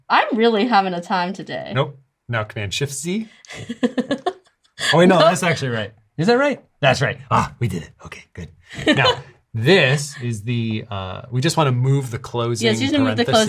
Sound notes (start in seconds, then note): 3.4 laughs